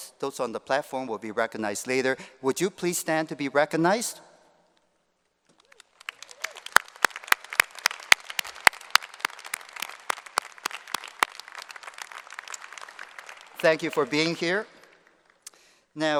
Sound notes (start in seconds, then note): 5.5 applause